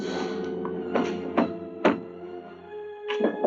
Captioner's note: banging on door